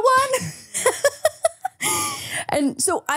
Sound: laughs

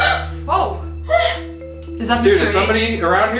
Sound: all gasp; voice On Radio

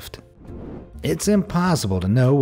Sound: air whooshing

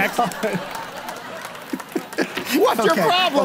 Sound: laughing

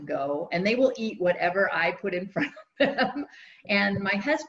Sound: laughs

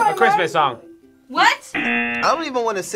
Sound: bells jingling; buzzer

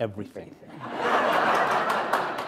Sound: laughter

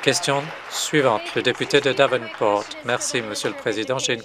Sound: applause

